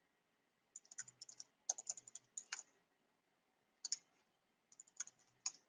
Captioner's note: keyboard clanking